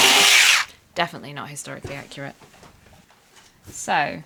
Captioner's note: electric scissors whirring